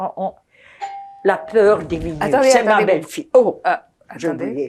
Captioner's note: doorbell